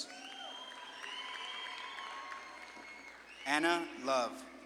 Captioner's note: audience claps and cheers